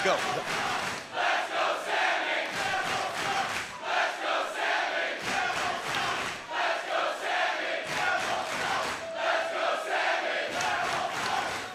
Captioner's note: crowd cheering